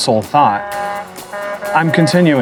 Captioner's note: horn sound